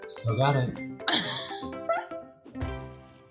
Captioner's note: laugh